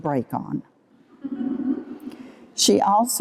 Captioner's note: laughter